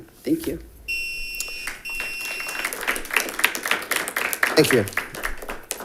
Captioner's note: beeper beeping; audience clapping